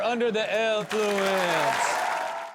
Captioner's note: cheering